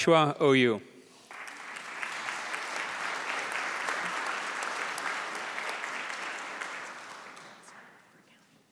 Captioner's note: applause